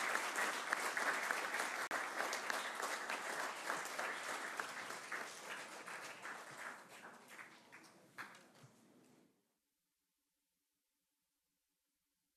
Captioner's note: applause